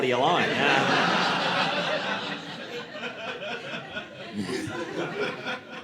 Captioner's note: audience laughing